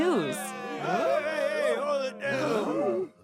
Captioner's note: crowd chatter